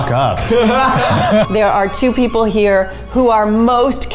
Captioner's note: laughing